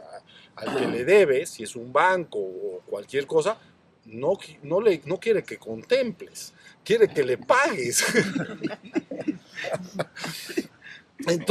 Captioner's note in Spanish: risas